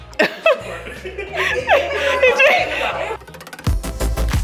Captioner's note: laughing